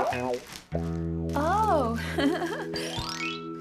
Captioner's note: chuckling